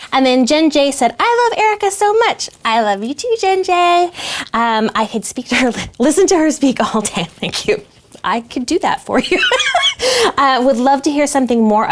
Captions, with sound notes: And then Jen J said, "I love Erica so much," I love you too Jen J, "I could listen to her speak all day," thank you, I could do that for you. (laughs) "I would love to hear something more